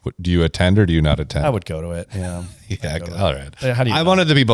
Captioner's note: laughs